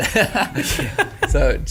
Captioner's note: laughing